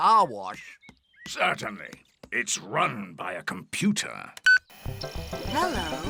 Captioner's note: beeps